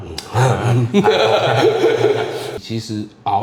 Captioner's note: evil laughter